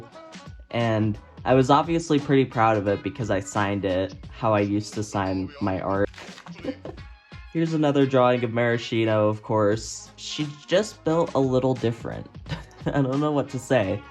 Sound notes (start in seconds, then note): 6.1 laughs